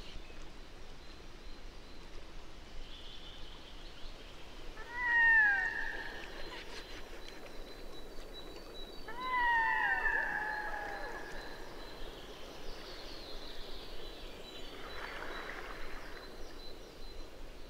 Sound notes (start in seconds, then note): 4.8 birdsong